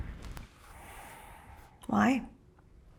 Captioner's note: exhales